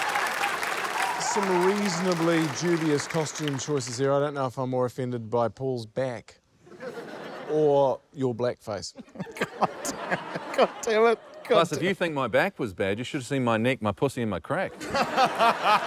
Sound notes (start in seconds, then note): 0.0 laughter, applause; 9.0 chuckles